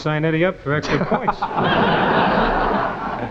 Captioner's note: audience laughing